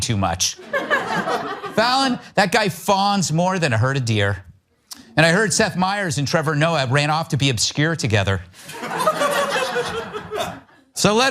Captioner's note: laugh